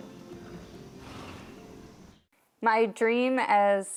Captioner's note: horse sighs